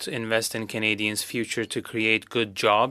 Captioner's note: speaking French